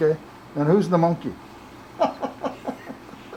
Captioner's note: laughs